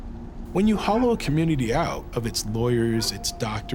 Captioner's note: dog barking